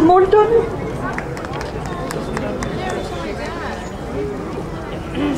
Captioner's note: crowd applauding